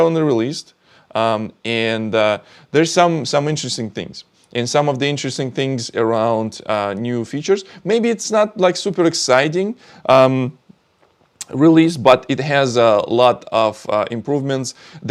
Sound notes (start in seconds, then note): none